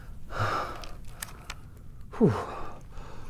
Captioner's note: panting